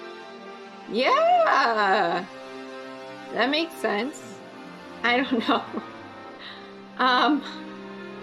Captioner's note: laughs